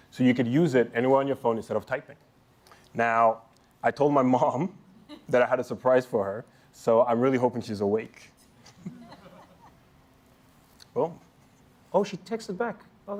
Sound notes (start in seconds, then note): 8.6 laughter